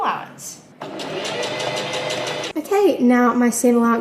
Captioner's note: sewing machine surges